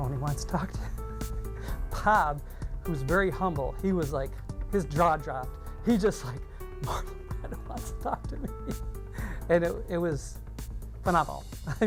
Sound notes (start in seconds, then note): 6.8 laughs